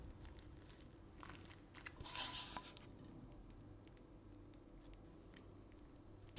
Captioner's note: stomach rumbles